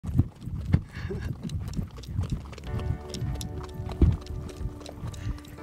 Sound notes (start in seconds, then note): 0.0 horse hooves stomping; 2.6 gentle music